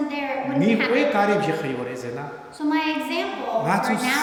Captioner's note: speaking tibetan